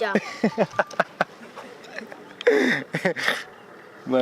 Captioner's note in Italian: risate